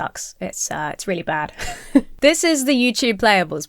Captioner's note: chuckles